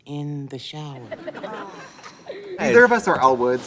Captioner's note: people laughing